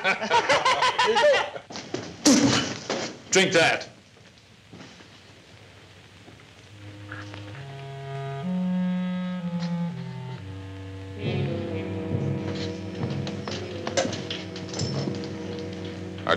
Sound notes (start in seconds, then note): 0.0 men laugh; 2.2 spits; 8.4 suspenseful orchestral music